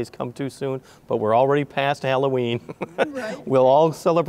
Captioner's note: chuckling